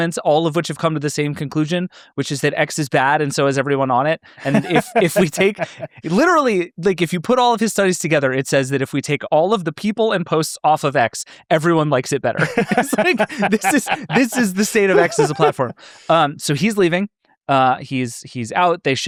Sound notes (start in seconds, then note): 4.4 laughs; 12.4 both laughing